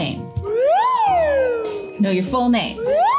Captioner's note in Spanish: silbidos de audio